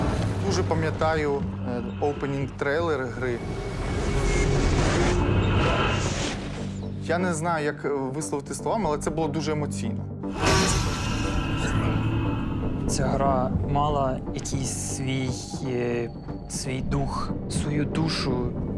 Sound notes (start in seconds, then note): 4.5 intense music playing; 10.3 ominous growling